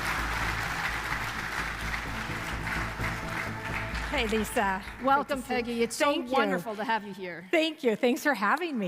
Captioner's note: applause